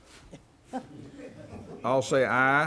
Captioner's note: everyone chuckling